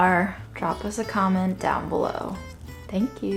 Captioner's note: water sloshing